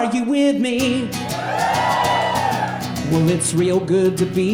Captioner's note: audience cheering